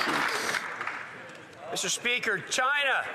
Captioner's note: some Applause